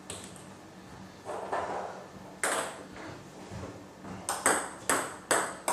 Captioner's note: ball ping pong hitting continues